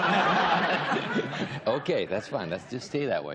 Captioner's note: laughter